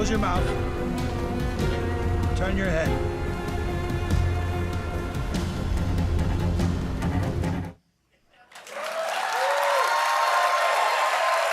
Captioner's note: cheers and applause